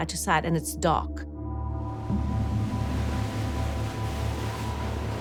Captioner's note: eerie music playing; wind whistling